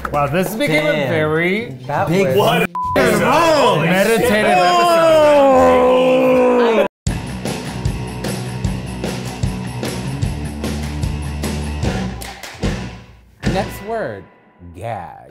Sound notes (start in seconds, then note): 4.2 everyone talking; 7.0 upbeat rock music